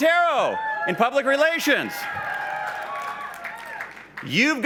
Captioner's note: cheers